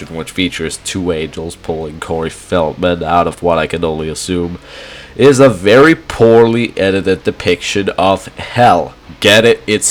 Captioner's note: inhale